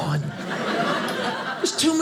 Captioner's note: audience laughing